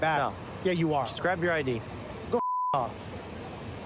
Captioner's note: beep